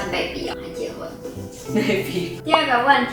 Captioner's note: laughs